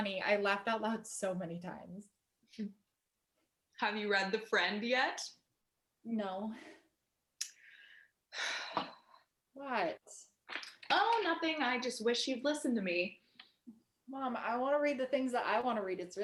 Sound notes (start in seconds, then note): 7.4 tsk and sighs